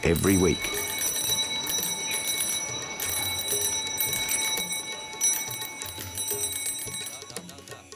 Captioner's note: rings bell